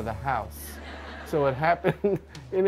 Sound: crowd laughs

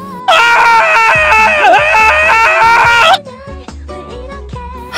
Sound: manly scream

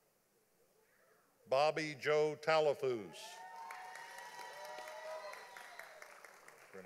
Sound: audience applauding

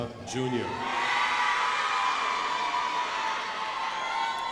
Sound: crowd applauding

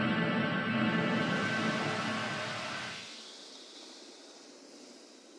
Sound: gentle music; water flowing

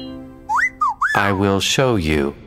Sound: whistling

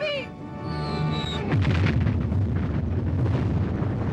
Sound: explosion

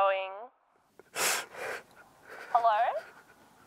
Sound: sobbing

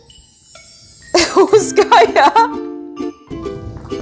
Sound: laugh

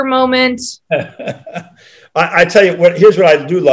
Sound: John laughing

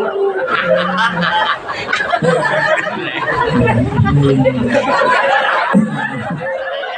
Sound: laughs

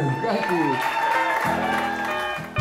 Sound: crowd cheers; upbeat country music

